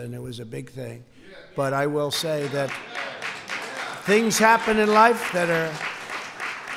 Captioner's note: applause